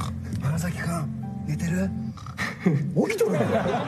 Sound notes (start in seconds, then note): 3.2 laughs